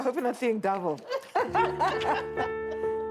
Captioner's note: healthcare worker laughs; soft piano music